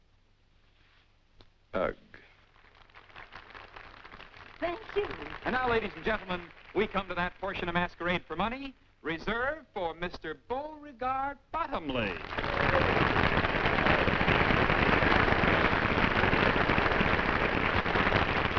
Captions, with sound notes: Ugg. Thank you. And now, ladies and gentlemen, we come to that portion of Masquerade for Money reserved for Mr. Beauregard Bottomley. [clapping]